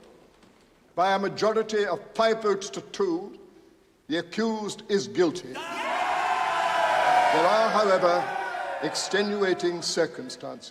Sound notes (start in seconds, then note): 5.5 cheering